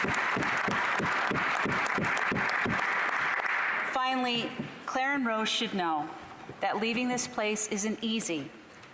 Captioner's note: applause